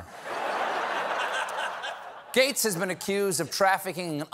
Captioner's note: laughter